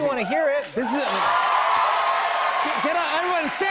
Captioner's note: cheers and applause